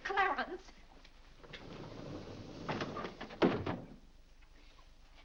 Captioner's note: doors sliding shut